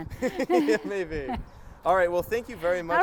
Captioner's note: both laugh